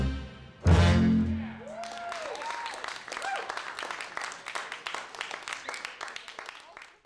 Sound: audience cheering; audience applauding

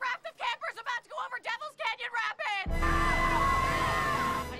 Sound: screaming

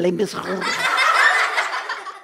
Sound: laughter

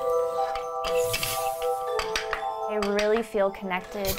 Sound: calm music; wheel squeaks; air whooshes; parts click

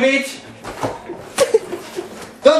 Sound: background laughs

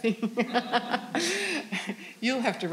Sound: all laughing

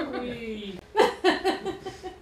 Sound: laughter

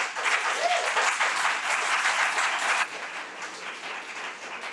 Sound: audience applauding

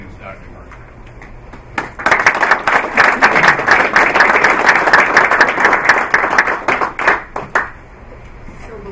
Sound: applause

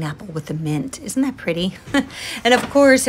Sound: chuckles

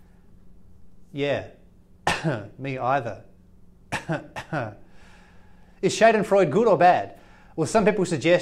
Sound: cough

